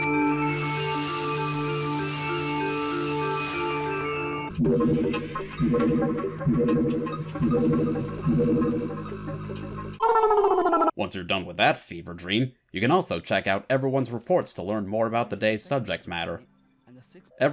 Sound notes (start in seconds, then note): 4.5 blorping